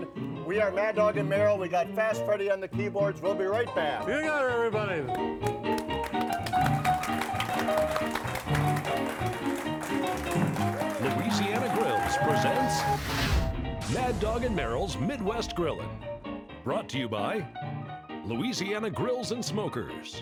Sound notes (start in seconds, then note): 5.0 audience clapping; 5.3 ragtime piano playing